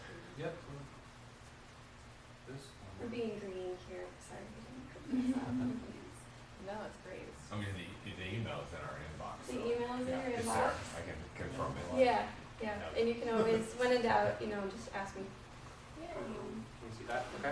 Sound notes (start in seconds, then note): 5.0 chuckles